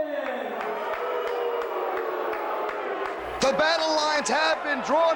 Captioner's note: crowd chatter